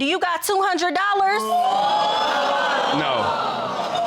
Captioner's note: audience exclaims